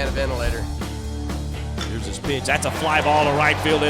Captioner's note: voiceover